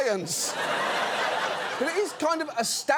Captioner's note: audience laughs